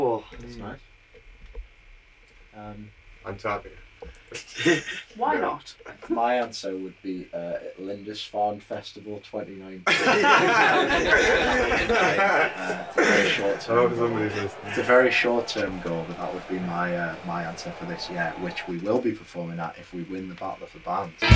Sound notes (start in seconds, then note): 4.4 laughs; 9.8 laughter